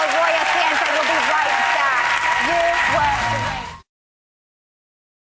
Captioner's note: big Applause